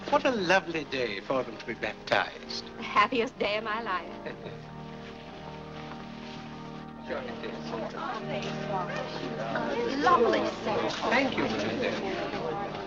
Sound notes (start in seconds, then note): 7.1 parishioners chatting